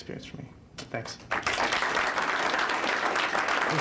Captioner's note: applause